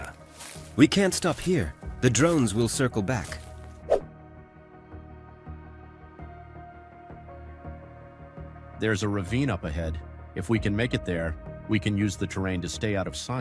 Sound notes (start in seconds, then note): 4.2 air whooshes